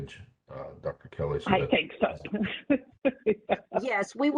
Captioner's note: laughing